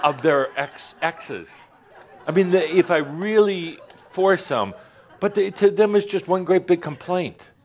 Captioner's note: more laughter